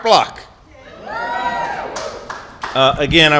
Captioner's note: applause